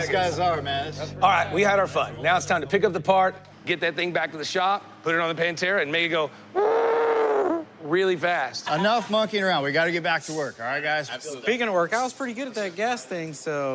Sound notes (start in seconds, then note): 6.3 imitates tires screeching